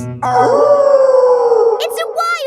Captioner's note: wolf howling loudly